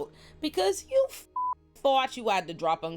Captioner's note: beep